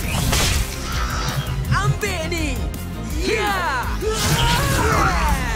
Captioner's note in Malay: berteriak